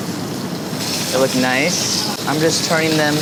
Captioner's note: sizzling